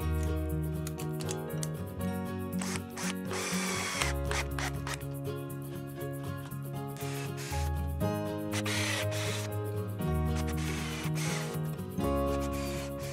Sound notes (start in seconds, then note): 0.1 lively, happy music; 2.6 drill whirs; 7.1 drill whirs